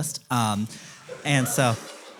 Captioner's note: audience laughter